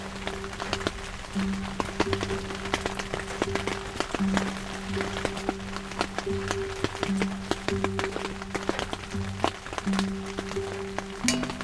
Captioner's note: rain